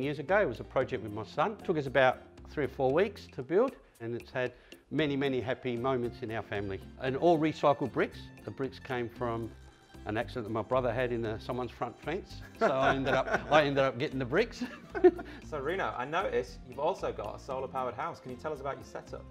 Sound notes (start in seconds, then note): 12.5 laughs; 14.6 both laughing